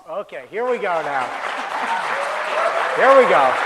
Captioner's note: applause